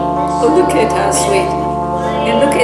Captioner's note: laughter